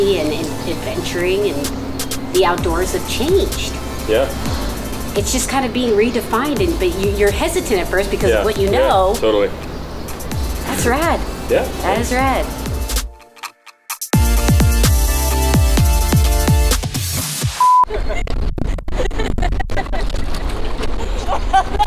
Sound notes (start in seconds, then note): 13.2 techno music; 17.5 camera beeps; 18.5 laughing